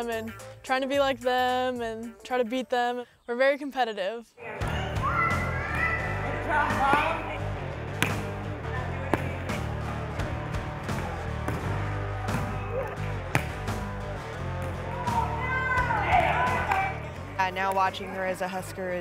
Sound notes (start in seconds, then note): 4.8 upbeat music; 7.8 volleyball thwacking; 16.0 women shouting